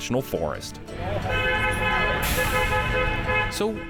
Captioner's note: honking